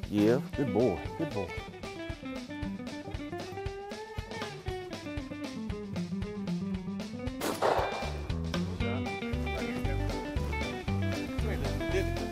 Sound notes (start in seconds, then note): 2.5 upbeat country music; 7.4 shot goes off; 8.9 upbeat country music